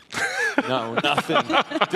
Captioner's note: laughing